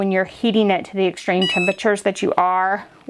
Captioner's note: beeps